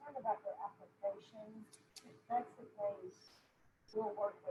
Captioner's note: murmurs